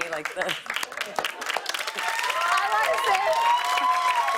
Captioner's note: cheers and applause